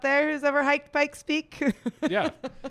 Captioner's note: laughs